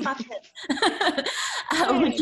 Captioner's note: laughs